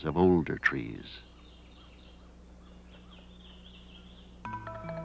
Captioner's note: nature sounds